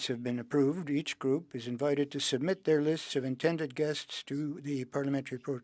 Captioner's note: speaking French